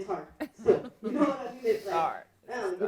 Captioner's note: laughing